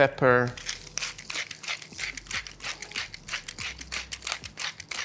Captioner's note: grinder churning